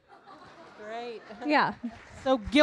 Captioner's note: audience laughing; audience applauding